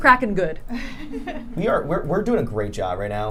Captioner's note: laughing